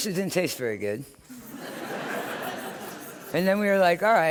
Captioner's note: laughter